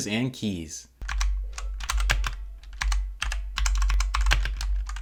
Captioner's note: keys clicking